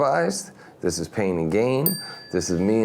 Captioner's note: bell rings